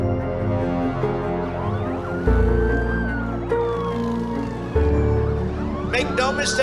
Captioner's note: sirens blaring